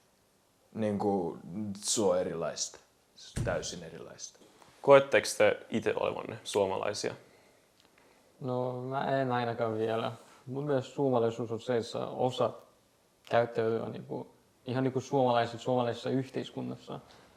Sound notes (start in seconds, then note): 3.3 stamping sounds